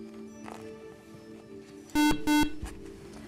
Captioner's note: buzzer